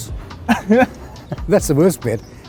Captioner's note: laughs